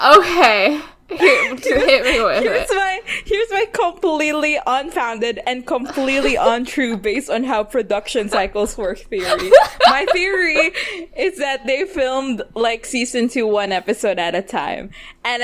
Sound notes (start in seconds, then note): 2.8 laughing